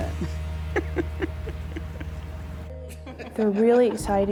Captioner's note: laughing